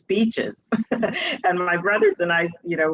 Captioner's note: chuckles